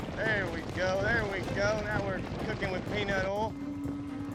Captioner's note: hoof beats; whistles, hoof beats